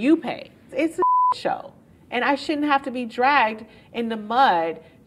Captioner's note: beep